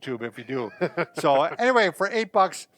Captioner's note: laughs